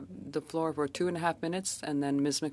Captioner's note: speaking French